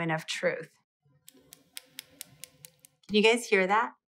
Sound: tapping the nails

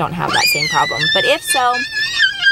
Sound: laugh screams

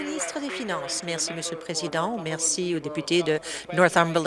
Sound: applause

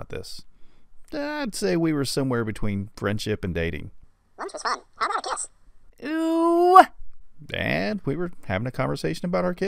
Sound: funny voice; man's voice

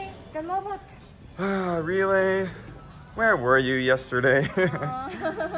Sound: sigh

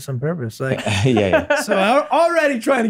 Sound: chuckles; laughs

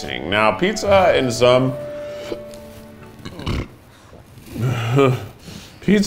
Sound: burps

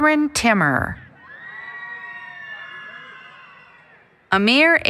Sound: applause, Cheering

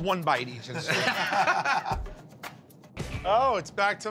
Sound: laughter

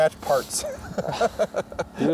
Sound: laughs

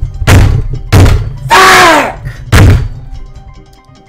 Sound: bang

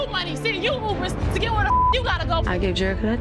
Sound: beep

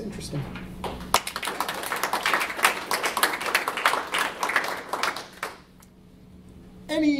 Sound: applause

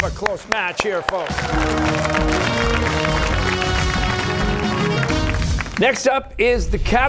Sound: cheers and applause

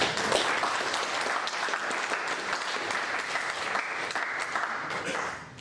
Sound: applause

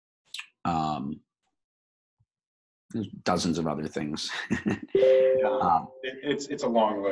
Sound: chuckles

